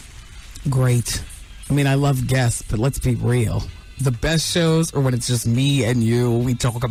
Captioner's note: none